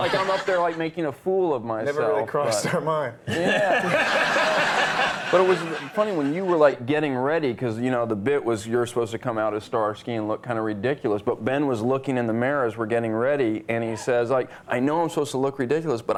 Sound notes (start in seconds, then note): 0.0 audience laughing; 3.2 all laughing